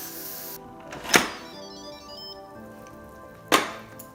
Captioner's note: steam hissing; beeping